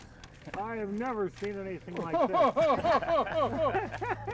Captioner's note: everyone laughing